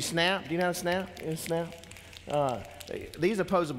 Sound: fingers snapping

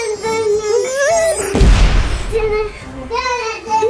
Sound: babbling; audio booms

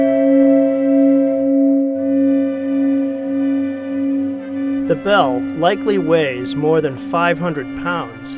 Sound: bell

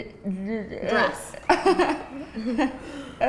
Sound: giggles

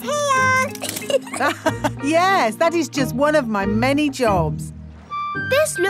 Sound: laughs

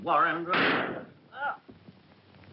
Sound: gunshot

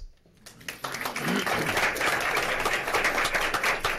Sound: applause

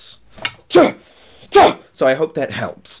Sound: weird exhalations

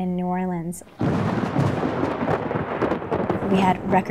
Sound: thunder cracking

